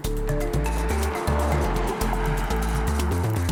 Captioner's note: car noise